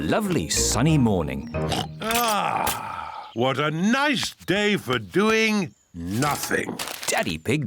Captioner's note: oinks